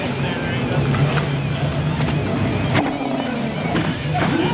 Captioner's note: motor revving